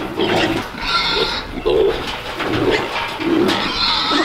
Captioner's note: pigs squeal